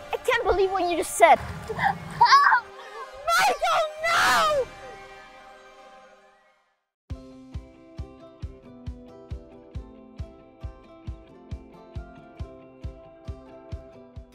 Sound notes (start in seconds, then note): 2.6 gasping; 7.3 upbeat Music